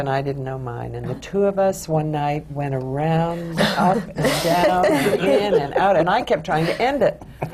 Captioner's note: laughter